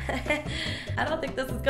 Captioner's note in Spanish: inhala por aire